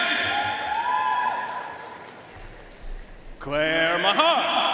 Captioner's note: audience cheering and applauding